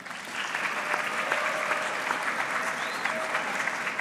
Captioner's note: audience clapping